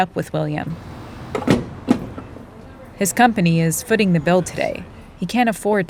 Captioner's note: soundbite of gas pump